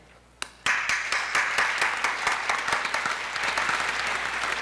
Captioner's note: applause